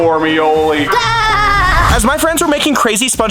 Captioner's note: laugh